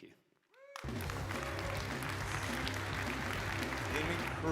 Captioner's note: audience applauding